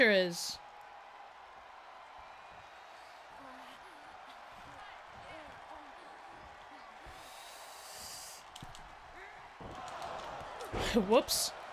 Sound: applause; applause

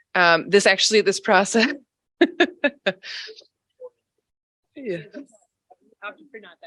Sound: chatter; chuckling

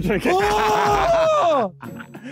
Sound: screaming; laughing

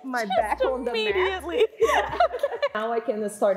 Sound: laughing

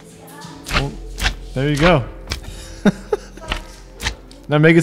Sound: laughs

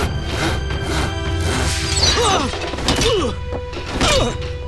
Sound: groaning

